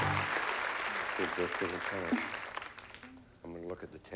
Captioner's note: whispering